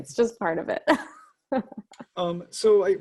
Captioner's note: chuckles